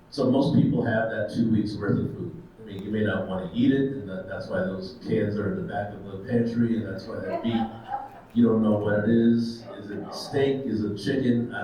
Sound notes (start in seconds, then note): 7.2 attendees chuckles